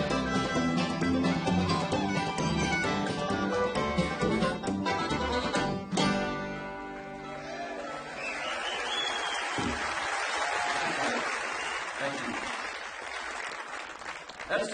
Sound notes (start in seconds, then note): 2.2 fiddle solo; 7.2 audience applauds